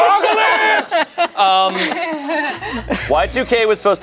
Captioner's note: everyone laughs